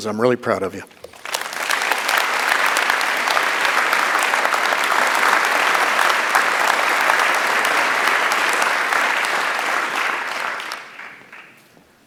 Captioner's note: applause